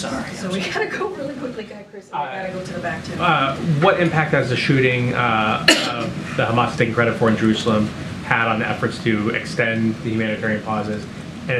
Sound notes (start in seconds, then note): 0.5 laughs